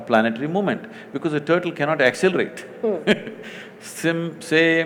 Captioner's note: laughs